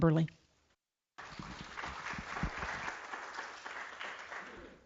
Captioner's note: group applauds